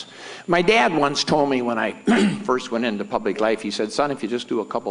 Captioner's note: clears throat